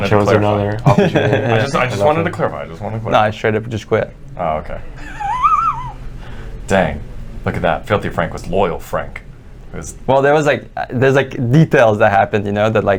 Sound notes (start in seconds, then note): 5.0 wheezing